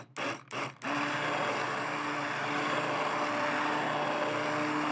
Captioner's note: blender whirring